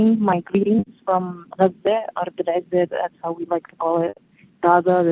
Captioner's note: non-english speech